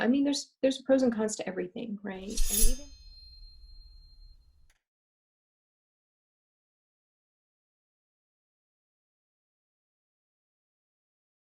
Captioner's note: slice sound effect